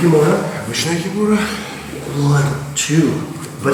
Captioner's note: speaking in a foreign language